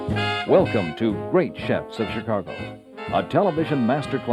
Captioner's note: voiceover